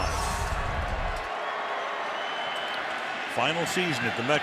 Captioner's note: cheering